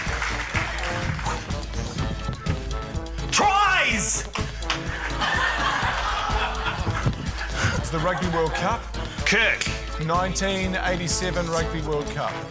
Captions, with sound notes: - Tries! (LAUGHTER) - The Rugby World Cup? - Kirk. - 1987 Rugby World Cup.